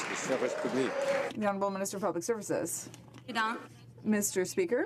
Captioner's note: some Applause